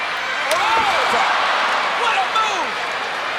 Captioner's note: ladder clunks